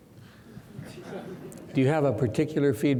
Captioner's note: laughing